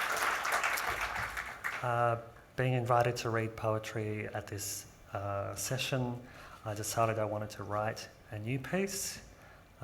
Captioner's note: applause